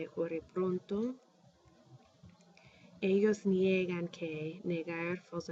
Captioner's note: speaking spanish